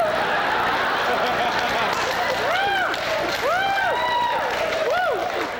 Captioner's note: cheers, applause